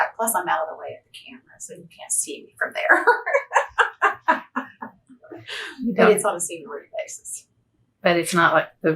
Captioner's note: laughs